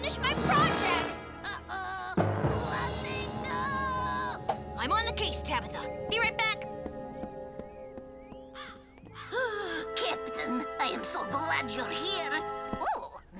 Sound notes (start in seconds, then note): 2.8 dramatic crescendo; 7.2 bird cawing